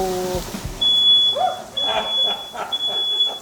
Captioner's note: smoke detector beeping; laughter in the background